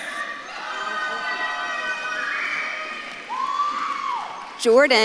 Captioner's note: audience claps and cheers